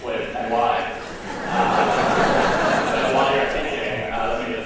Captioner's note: laughter